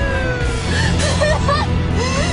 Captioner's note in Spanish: Sirenas